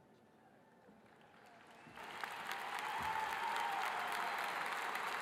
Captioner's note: audience applauding